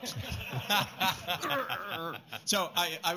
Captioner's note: laughter